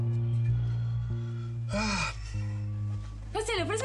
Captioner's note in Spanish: Suspiro